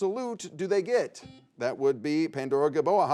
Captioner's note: buzzer dings